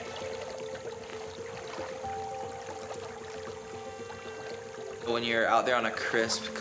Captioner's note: gentle acoustic music; water gurgling